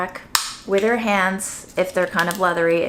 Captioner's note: nut snaps; nut scraping